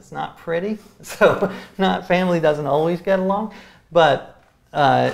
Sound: laughs

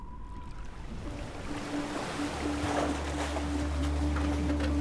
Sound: waves splashing

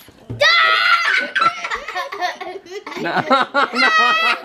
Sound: laughing

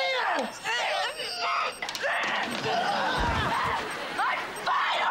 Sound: grunting

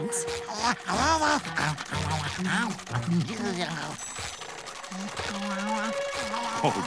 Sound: chomping

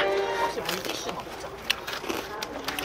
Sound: Crunch

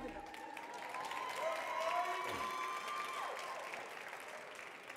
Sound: audience cheering

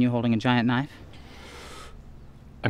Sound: gasps

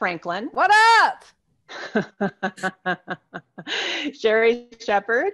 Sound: laughter

